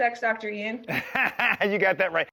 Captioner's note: laughs